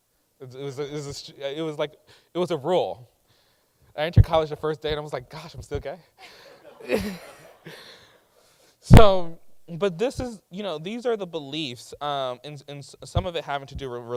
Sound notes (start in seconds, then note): 6.2 laughing